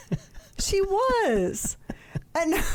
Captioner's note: laughing